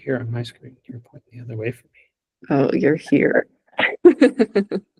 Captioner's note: laughing